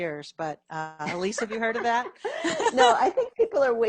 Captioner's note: laughs